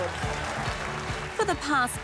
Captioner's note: applause